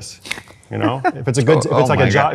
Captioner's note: laughs